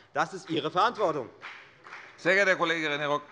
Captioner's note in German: Beifall bei der FDP